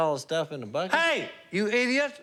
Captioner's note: yelling